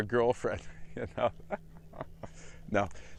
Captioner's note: laugh